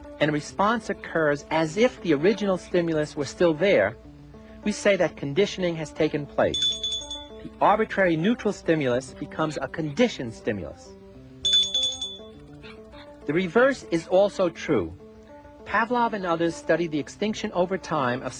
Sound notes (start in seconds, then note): 6.5 ringing; 11.4 ringing